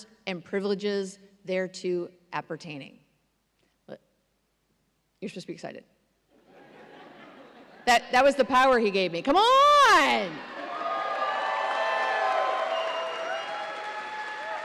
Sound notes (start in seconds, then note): 6.4 audience laughs; 10.3 audience cheers and applauds